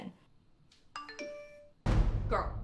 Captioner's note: phone dinging